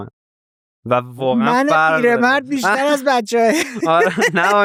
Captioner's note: laughs